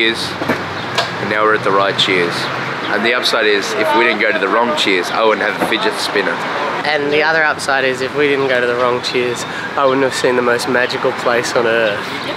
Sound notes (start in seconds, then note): none